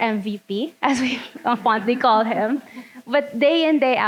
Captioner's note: laughing; audience laughing